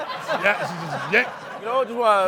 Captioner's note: laughter